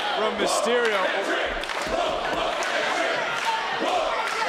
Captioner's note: crowd chants